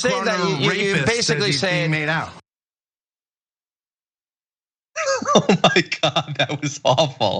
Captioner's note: laugh